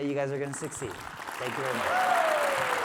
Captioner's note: audience applauding